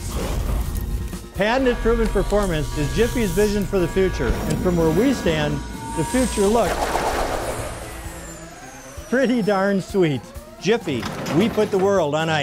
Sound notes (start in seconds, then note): 7.3 lazer blast